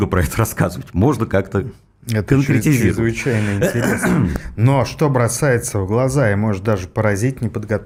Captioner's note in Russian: откашливается